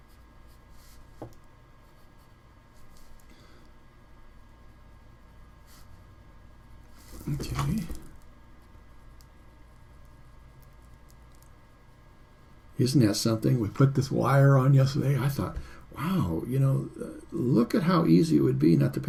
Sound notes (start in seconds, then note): 2.7 pause